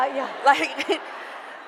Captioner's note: laughter